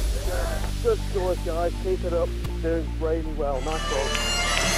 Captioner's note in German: Voiceover